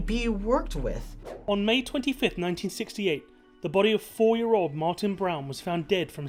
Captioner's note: voice-over